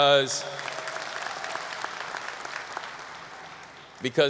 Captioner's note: audience applause